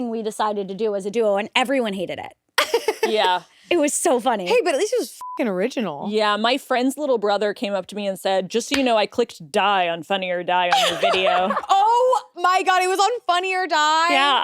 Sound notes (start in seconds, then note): 2.6 laughs; 5.2 beep